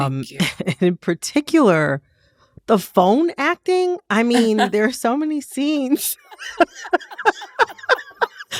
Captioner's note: laughter